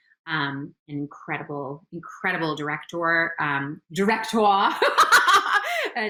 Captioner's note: laughs